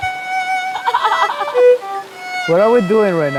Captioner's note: laughs